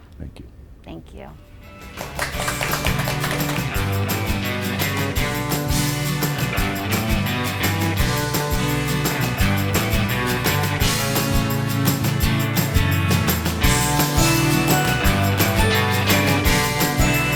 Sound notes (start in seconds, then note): 1.8 audience clapping; 4.8 upbeat music